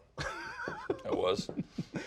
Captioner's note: laughs